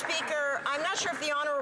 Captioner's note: some Applause